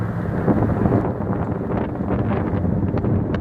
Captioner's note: wind noise